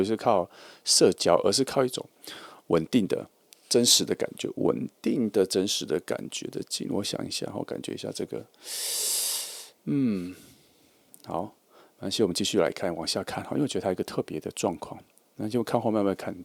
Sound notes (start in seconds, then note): 8.7 suck